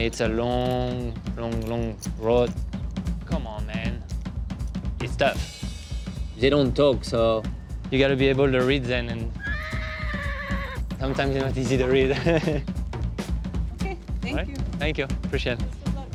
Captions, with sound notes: No, it's a long, long, long road. Come on, man. Lift up. They don't talk, so you gotta be able to read them. [ whinnies ] Sometimes they're not easy to read. [ chuckles ] - Okay. Thank you. - Thank you. Appreciate it. - Best of luck. - Thank you.